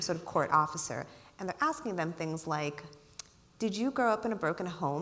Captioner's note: clicks tongue